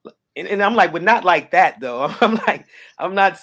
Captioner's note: chuckles